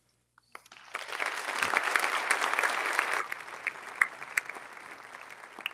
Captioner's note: audience applauding